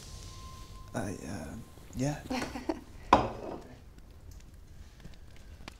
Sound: girl laughing

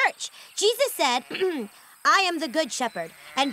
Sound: clears throat

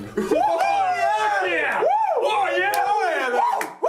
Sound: men cheering

